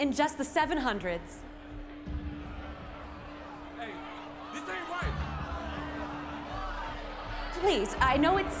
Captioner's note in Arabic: صيحات الحشود، الجدال